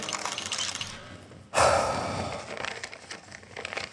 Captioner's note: defeated sigh